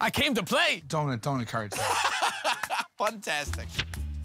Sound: laughs

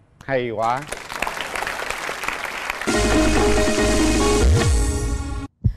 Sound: applause

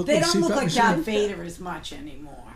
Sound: voiceover

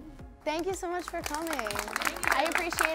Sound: applause

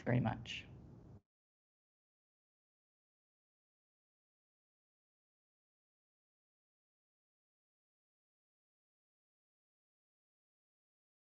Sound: silence

